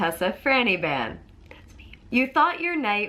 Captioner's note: whispers